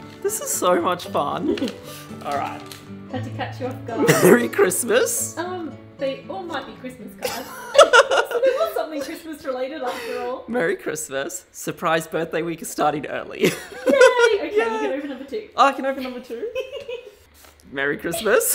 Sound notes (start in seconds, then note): 4.0 laughing; 16.0 laughing